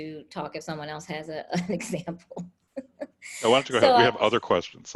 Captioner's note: laughs